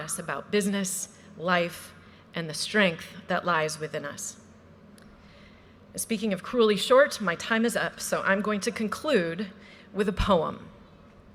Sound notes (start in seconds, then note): none